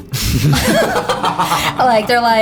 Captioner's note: all laughing